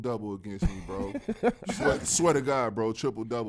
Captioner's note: laughter